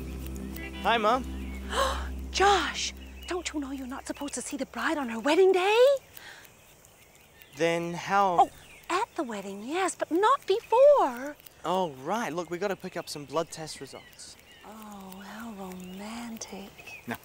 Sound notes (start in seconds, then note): 1.6 gasps